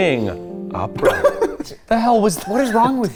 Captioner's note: giggling